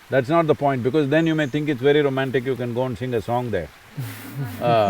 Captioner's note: laughter